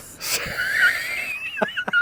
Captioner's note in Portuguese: risos